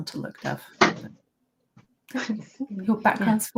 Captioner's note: laughter